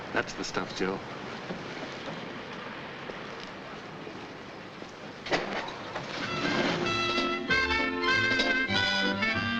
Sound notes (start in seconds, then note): 5.7 motor revs; 6.4 bright music